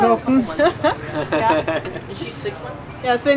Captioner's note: laughter